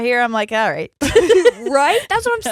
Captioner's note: both laughing